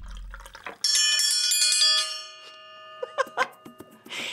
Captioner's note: chime ringing